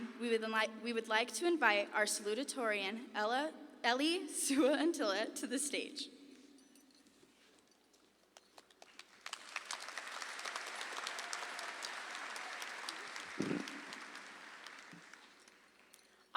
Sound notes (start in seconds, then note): 8.6 audience applauds